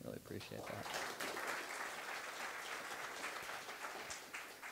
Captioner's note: applause